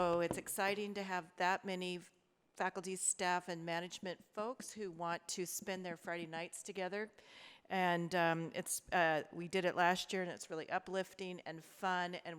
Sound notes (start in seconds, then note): none